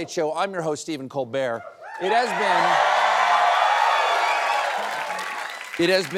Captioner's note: cheering